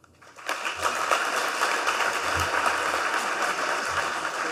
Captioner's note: audience clapping